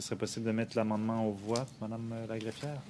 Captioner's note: speaking French